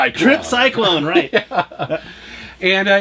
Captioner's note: laughs